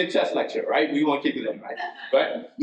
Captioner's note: attendee laughs